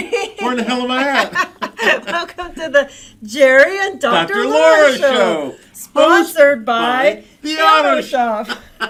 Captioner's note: laughing